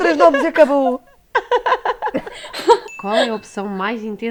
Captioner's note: laughs